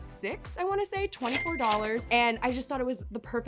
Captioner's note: cash register chiming